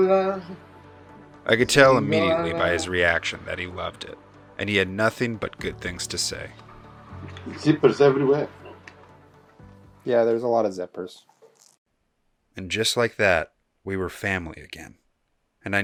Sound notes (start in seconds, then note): 1.6 voiceover; 12.8 voiceover